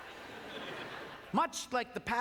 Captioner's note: audience laughter